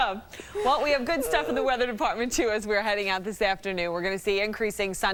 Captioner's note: laughter